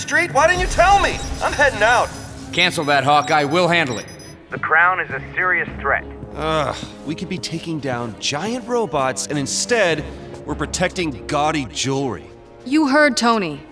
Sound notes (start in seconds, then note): 6.4 groans